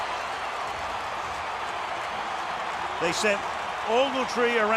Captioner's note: cheering